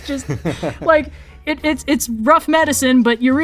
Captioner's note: laughs